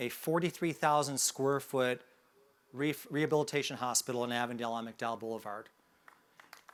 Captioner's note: sounds of applause